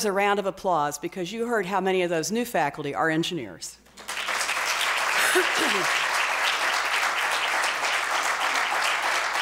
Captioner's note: applause